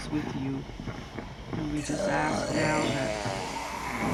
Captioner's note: groaning